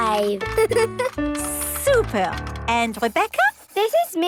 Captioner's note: giggles